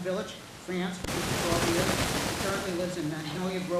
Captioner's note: static hissing loudly